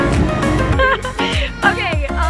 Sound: laughter

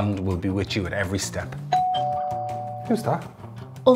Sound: doorbell rings

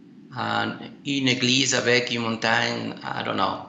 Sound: French

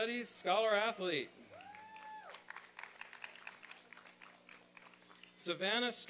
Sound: applause and cheering

